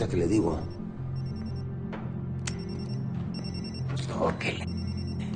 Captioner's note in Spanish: Timbra un teléfono